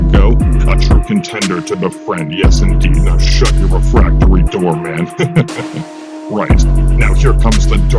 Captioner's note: chuckle